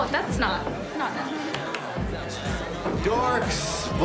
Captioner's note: claps